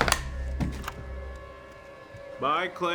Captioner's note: door clicks